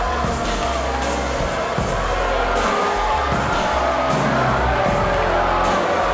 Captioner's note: crowd jeering; groovy music